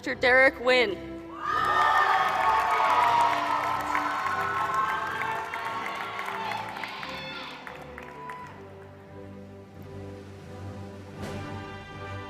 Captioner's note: applause